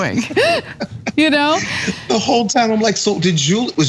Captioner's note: laugh